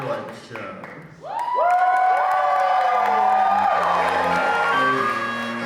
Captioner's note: audience cheers